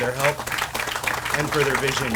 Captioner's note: audience applauds